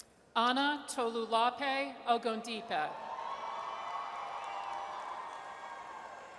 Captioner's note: audience cheers